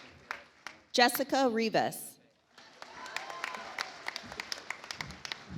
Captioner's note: audience applauds